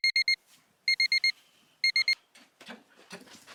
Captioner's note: beeping